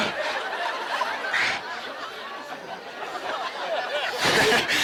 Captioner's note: audience laughing